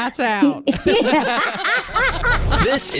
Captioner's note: laughs